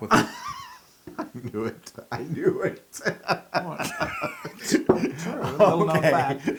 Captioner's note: laugh